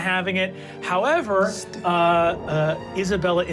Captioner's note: whispers